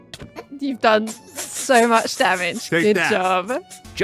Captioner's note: a single smack; snickers